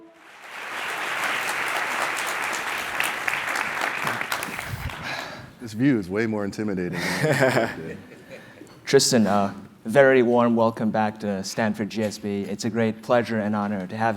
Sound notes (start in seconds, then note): 0.0 applause; 7.0 laugh